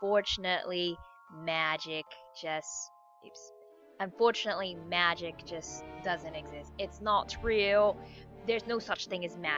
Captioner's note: in a British accent